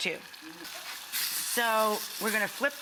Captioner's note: patties sizzling